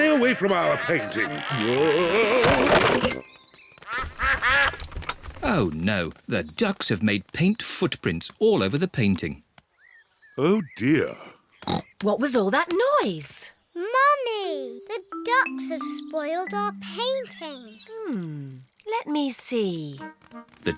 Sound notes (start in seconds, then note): 3.8 quacking